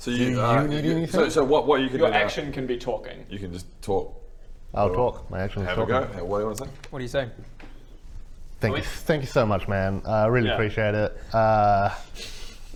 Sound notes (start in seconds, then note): none